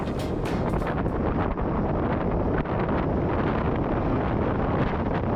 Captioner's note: wind blowing